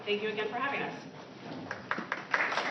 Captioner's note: applause